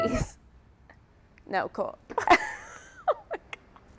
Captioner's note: laughs